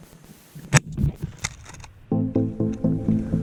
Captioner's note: gunshot